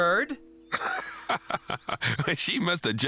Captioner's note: laughing